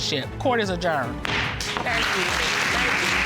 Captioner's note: gavel bangs; audience applauding